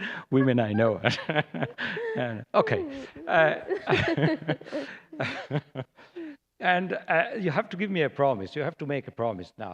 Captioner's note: laughter; laughter